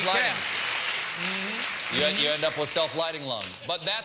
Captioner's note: applause